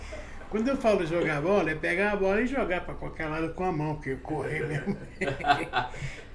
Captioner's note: laughs; laughs